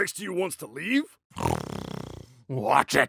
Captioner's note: growling